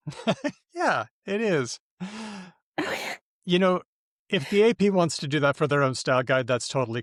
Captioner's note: laughs